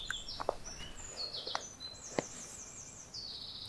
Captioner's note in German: Auspackgeräusche